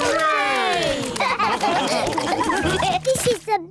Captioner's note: all laugh